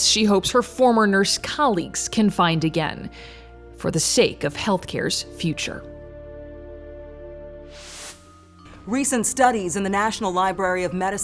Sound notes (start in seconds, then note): 5.9 gentle music; 7.7 transition whooshes